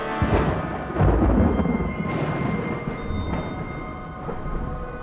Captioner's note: thunder crashing